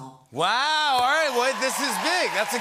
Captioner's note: cheers and applause